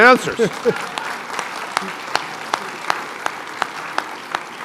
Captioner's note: applause